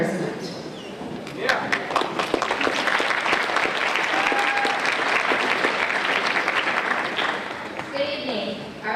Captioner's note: applause